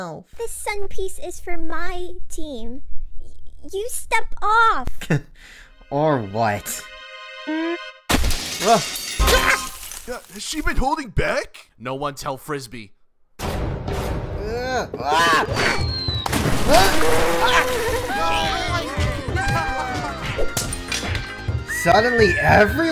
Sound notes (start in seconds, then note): 9.1 Telescope yelps; 9.5 rumbling, cracking ice; 14.6 Telescope yells; 18.3 Team 1 cheering